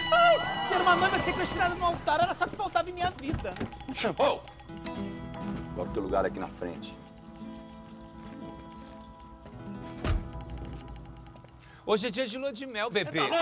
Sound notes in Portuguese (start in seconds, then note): 10.0 Porta do carro bate